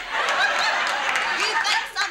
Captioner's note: audience laughs